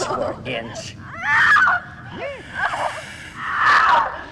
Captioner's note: Liz screaming